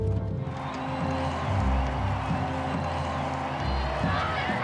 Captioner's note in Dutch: menigte juicht